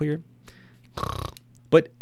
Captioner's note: slurps